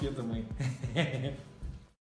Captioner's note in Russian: хехе